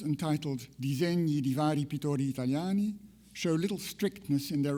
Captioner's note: speaks in foreign language